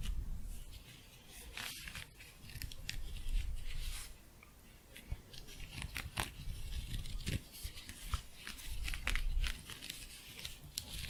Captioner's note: scratching